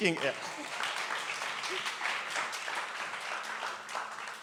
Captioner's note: applause